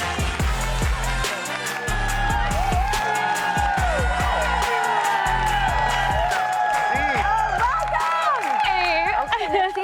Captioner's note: applause